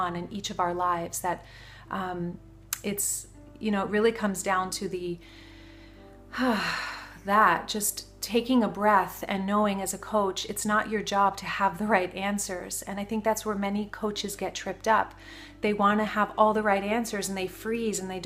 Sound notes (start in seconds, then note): 6.3 sighs